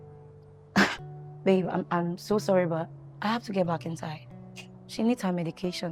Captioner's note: scoffs